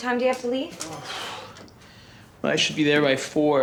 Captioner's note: sighs